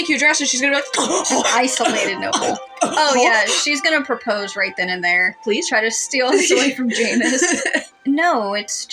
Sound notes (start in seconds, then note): 6.3 laugh